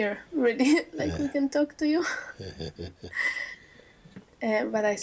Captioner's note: chuckles